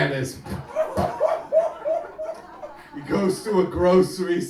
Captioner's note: audience laughing